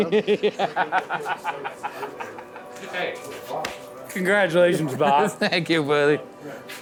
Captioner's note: laughing; laughs